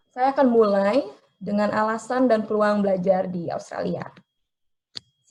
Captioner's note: speaking in foreign language